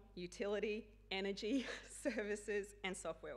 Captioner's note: chuckling